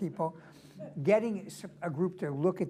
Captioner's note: laughter